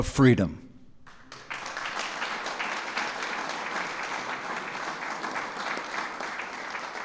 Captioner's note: applause